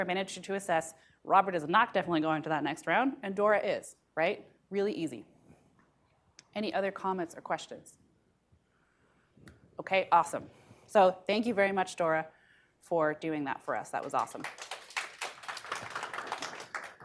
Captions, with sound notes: manager to assess Robert is not definitely going to that next round and Dora is. Right? Really easy. Any other comments or questions? Okay, awesome. So, thank you very much Dora for doing that for us that was awesome. [AUDIENCE CLAPPING]